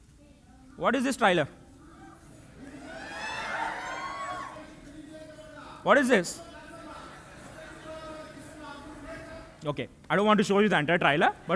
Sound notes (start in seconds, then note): 2.5 crowd cheering